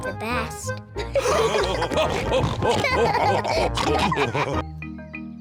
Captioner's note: all laughing